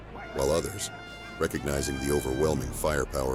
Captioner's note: indistinct shouting